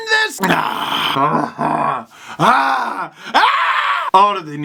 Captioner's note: makes exasperated but happy sounds